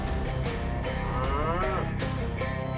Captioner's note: cows moo